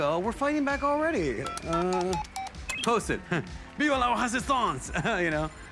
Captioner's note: chuckles